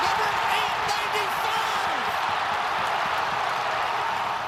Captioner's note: cheering